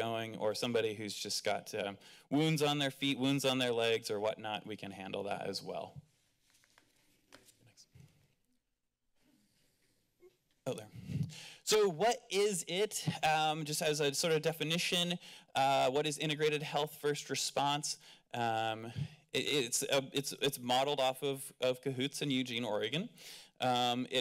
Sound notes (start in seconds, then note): 6.0 rustling sound